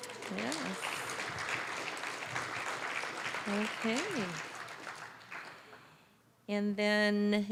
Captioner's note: applause